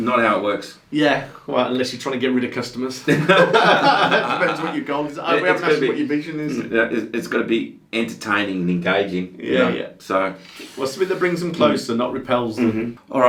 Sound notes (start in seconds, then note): 3.0 laughing